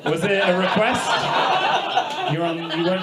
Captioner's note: audience laughs